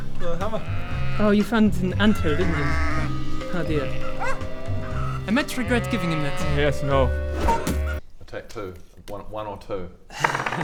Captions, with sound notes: the hammer *baa* Oh you found an anthill didn't you? - yeah - *baa* oh dear *woof!* I might regret giving him that Yes no *bash!* Take two 1 or 2